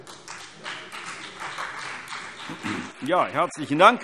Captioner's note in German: Beifall CDU und vereinzelt BÜNDNIS 90/DIE GRÜNEN